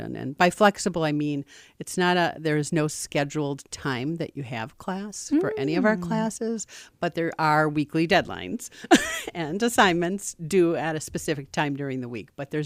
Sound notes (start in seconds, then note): 8.9 laughs